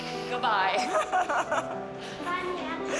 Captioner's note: laughs